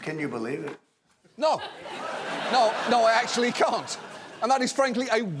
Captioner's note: audience laughing